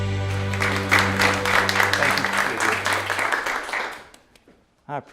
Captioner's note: applause